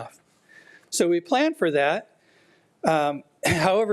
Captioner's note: clears throat